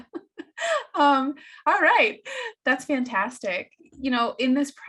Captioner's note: laughing